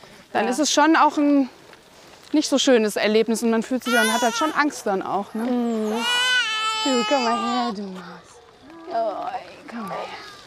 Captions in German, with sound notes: Dann ist es schon auch ein nicht so schönes Erlebnis und man hat auch Angst. - Mhm. (Babygeschrei) Komm mal her du. Oh ... komm her.